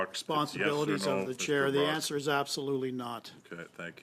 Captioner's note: speaking French